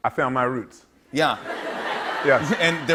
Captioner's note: laughter